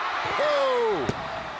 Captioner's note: crowd cheering